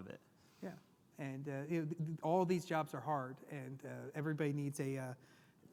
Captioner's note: none